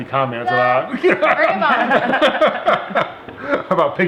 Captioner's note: laughs